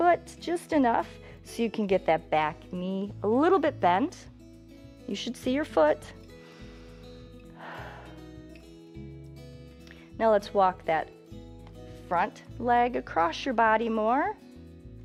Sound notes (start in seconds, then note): 6.2 inhales and exhales